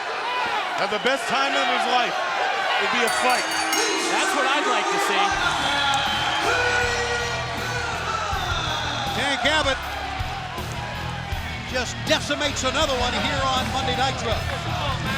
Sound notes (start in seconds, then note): 3.0 bell rings